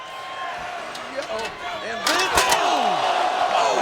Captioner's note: crowd cheering